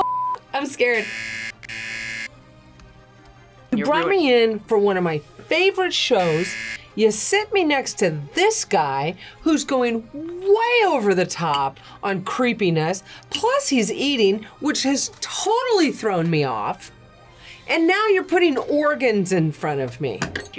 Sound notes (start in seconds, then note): 0.9 buzzer rings; 6.2 buzzer rings